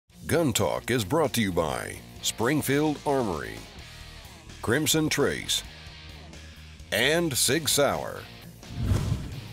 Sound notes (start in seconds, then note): 1.2 voiceover